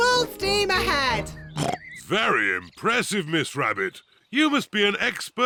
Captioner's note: oinks